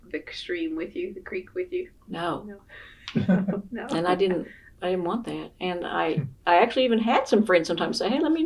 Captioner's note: laughter